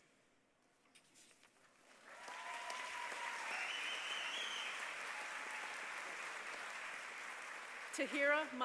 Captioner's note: applause